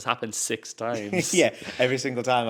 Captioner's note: laughs